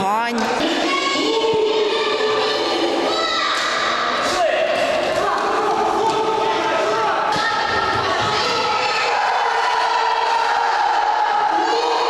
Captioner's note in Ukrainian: вигуки дітей